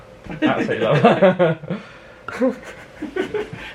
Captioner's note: both laugh